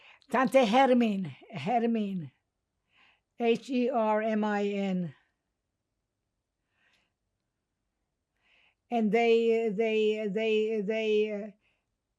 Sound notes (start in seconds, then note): 5.4 pauses 8 seconds